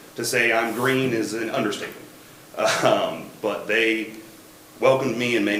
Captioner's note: chuckles